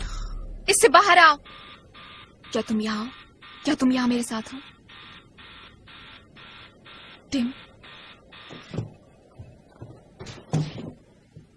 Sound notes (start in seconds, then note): 1.9 timer buzzing